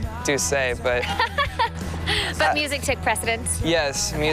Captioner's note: laughs